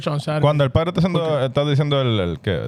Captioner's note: speaking In Foreign Language